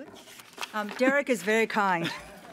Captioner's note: laughter